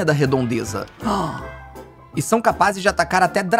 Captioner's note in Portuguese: faz som de surpresa